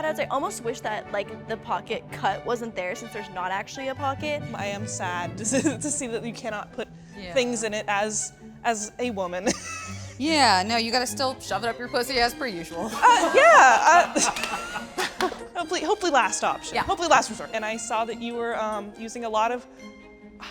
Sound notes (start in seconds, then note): 5.5 chuckles; 9.4 laughs; 12.9 laughs; 14.4 participants laugh